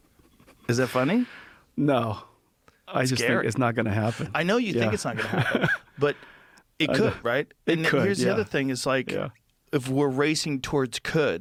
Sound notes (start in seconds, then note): 4.8 laughter